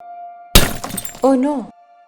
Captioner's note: glass Breaks